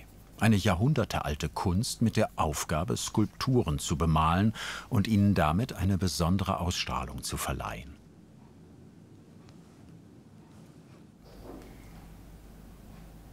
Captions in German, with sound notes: Eine jahrhundertealte Kunst mit der Aufgabe, Skulpturen zu bemalen und ihnen damit eine besondere Ausstrahlung zu verleihen. (Leise Arbeitsgeräusche im Hintergrund)